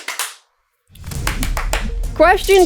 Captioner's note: clap clap clap clap clap